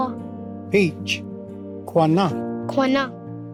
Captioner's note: repeats in Cherokee